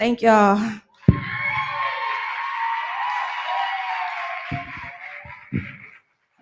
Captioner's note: cheering